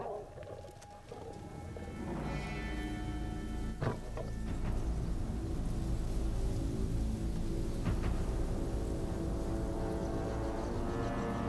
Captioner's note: roars